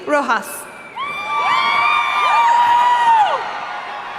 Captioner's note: cheering